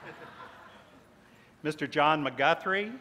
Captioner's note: laughter